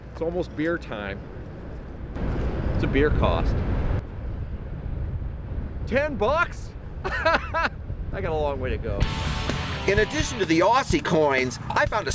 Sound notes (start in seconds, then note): 7.0 laughs; 9.0 rock music